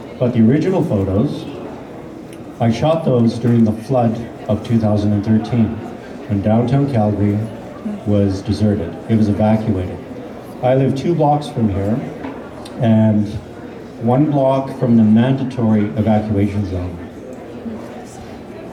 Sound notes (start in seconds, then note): none